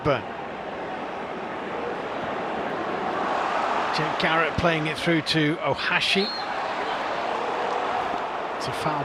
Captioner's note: audience oohs